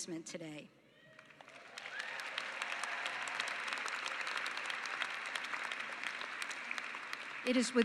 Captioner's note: cheering and applause